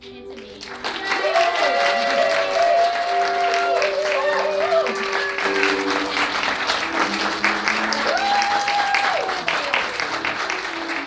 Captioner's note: audience cheers